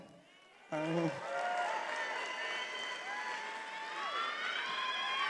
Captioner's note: attendees applauding and cheering